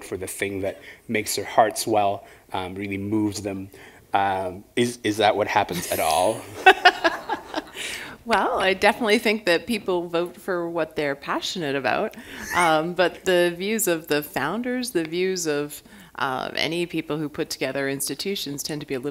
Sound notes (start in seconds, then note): 6.5 laughter